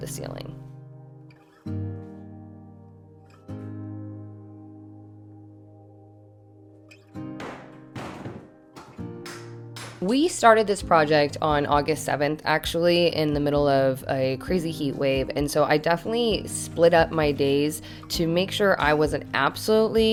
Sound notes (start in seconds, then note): 0.2 gentle music; 7.4 bricks clatter